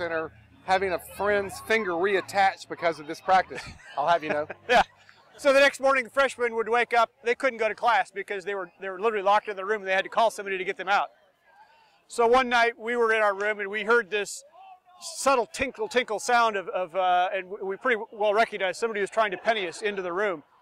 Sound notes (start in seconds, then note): 4.2 laughing